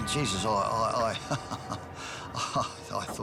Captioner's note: laughs